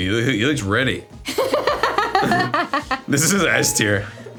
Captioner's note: laughs